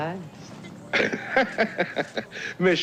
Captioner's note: laughs